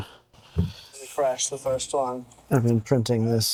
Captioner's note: audio plays from phone